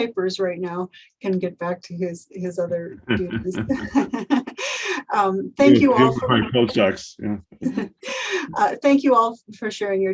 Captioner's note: laughs